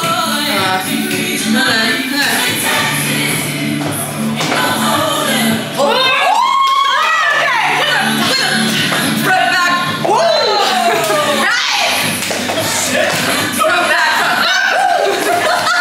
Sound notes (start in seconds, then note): 1.6 upbeat country music continues; 5.8 cheers; 15.6 all laugh and cheer